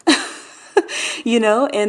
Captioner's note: laughing